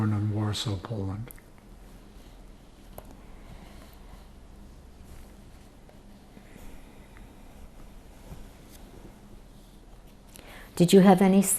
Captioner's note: pauses 8 seconds